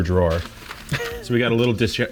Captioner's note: laughs